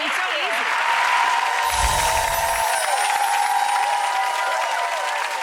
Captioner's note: audience applauding